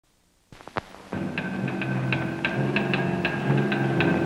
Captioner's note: clanging